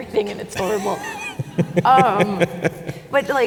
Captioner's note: chuckles